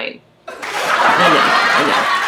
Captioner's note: audience laughs and applauding